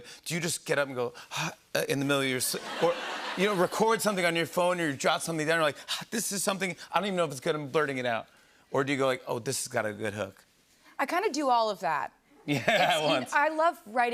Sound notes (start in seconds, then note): 2.5 laughter